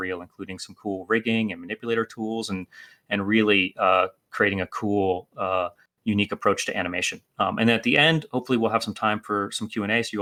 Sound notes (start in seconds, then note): none